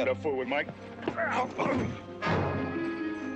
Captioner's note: groaning